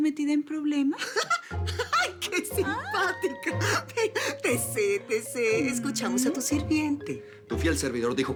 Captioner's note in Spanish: Risas